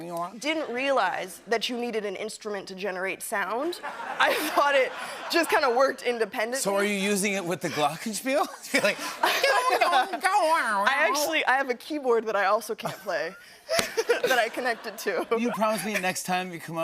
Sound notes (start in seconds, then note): 0.0 imitating talk box; 9.6 imitating talk box